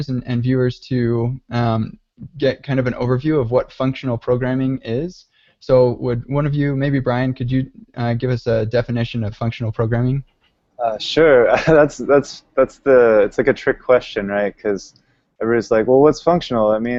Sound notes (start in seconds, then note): 10.8 laughs